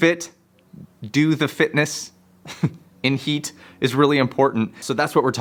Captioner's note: chuckles